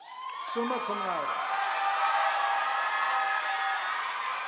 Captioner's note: audience applauding